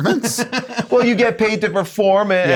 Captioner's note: laughing